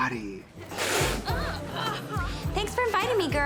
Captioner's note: Vivian sputters